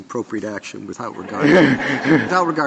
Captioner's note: laughter